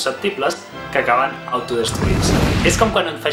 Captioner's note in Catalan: explosió